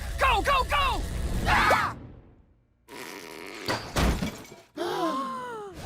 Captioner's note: Teen Titans screaming; Teen Titans gasping